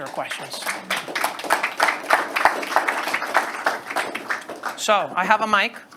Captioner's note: students applauding